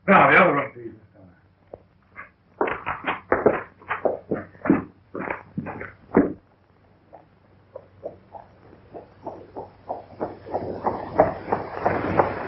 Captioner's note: pounding